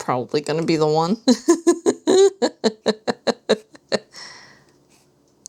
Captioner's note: laughter